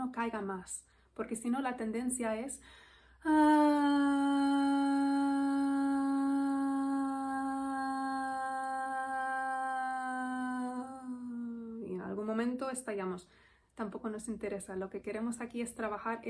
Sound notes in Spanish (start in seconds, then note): 2.6 suspiro